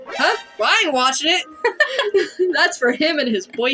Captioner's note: laugh